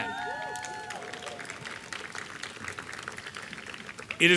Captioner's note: applause